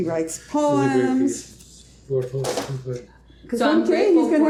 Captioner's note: murmuring